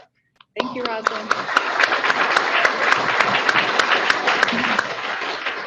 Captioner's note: audience clapping